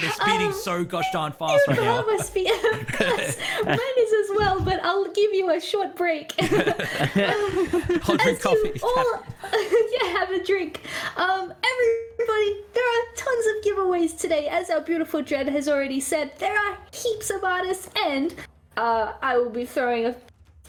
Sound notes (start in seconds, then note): 0.0 excited noises; 6.4 all laughter